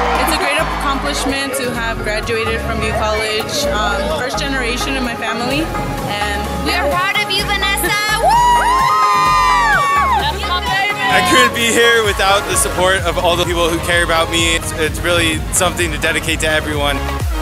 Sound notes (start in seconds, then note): 8.0 cheering; 17.2 music & cheering